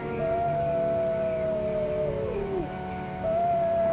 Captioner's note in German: Eule schreit